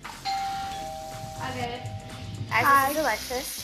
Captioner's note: doorbell rings